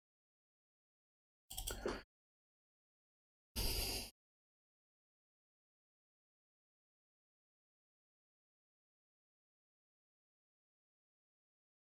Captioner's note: blank Audio